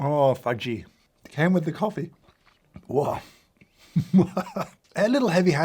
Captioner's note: laughs